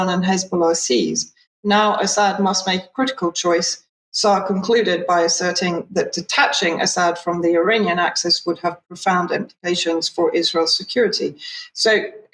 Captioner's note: speaking in Hebrew